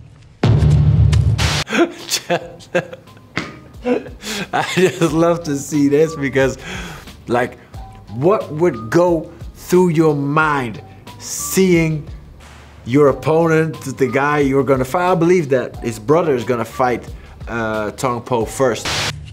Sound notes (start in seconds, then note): 1.6 laughs